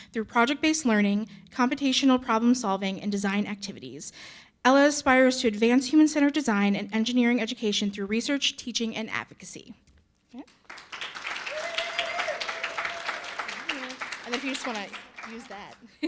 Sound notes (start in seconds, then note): 10.6 audience cheering and applauding